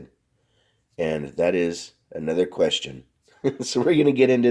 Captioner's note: laughs